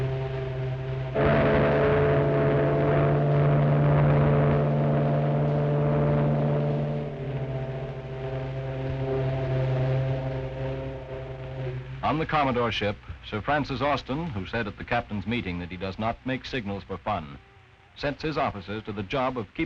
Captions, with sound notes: (foghorn blaring) On the commodore's ship, Sir Francis Austin, who said at the captains' meeting that he does not make signals for fun, sets his officers to the job of